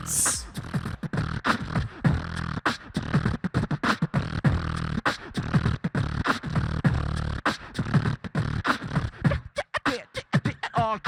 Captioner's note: beatboxer performs